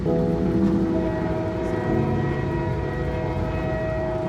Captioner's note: train honks